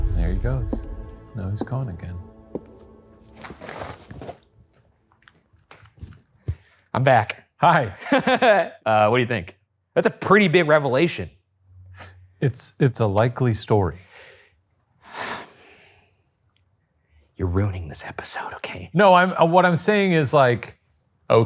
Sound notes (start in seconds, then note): 7.9 laughing; 15.1 sighs